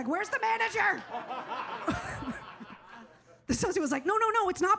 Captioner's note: audience laughs